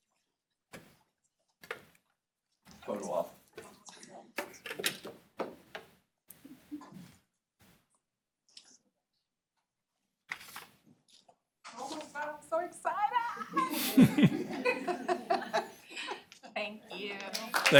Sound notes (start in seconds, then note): 13.1 laughter